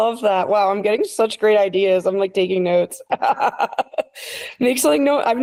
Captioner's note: laughs